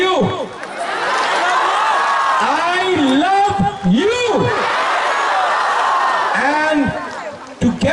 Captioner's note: applause